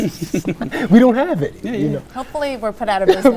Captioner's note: laughs